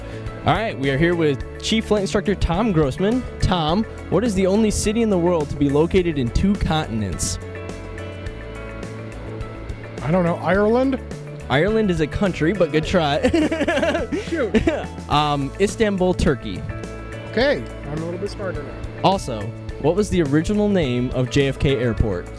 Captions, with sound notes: Alright we are here with chief flight instructor, Tom Grossman. Tom, what is the only city in the world to be located in two continents? I don't know Ireland? Ireland is a country but good try. (Laughter) Istanbul Turkey. Ok. Also, what was the original name of JFK Airport?